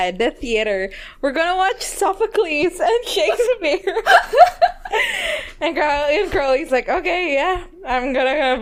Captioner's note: both laugh